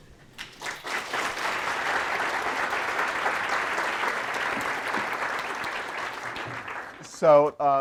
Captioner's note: applause